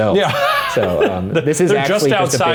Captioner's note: laughs